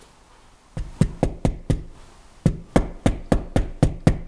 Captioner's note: hammer tapping